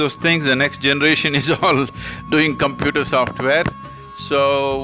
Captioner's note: laughs